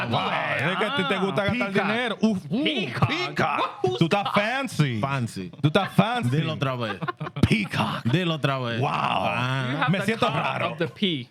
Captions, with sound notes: (Speaking In Foreign Language) Who's that? Fancy. Fancy. (Speaking In Foreign Language) You have the car of the pee.